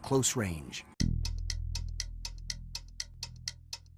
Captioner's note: clock ticking